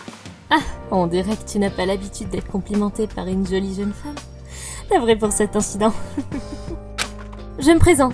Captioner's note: laugh